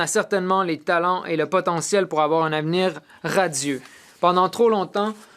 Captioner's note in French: voix de l'interprète